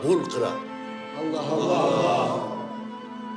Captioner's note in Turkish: Hep bir ağızdan